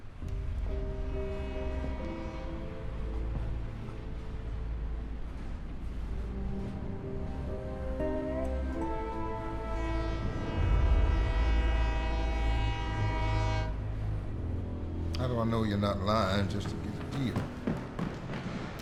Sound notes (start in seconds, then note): 0.1 train horn, slow footsteps; 4.7 train horn